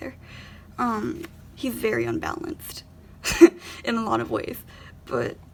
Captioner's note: laughs